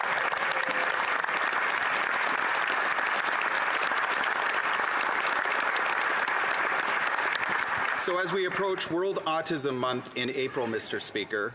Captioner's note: applause